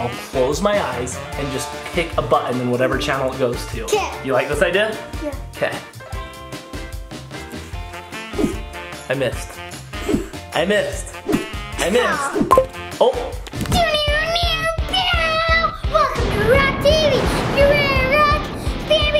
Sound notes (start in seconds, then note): 8.3 whooshing air; 14.4 imitating electric guitar; 19.0 imitates rock guitar